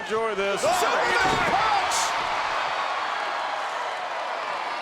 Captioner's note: crowd cheers